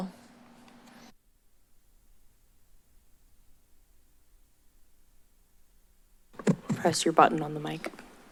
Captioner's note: silence